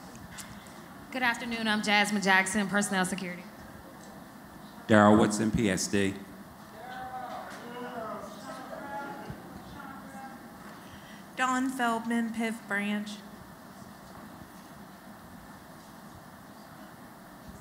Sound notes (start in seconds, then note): none